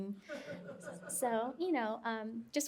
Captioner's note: laughter